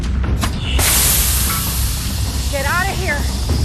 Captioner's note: gas hissing